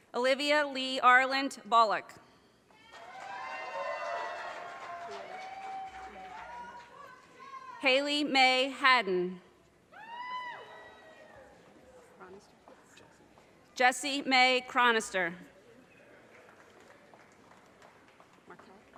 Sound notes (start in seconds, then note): 2.8 audience cheers and applause; 9.6 audience cheers and applause; 16.2 audience applause